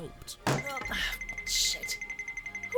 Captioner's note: phone rings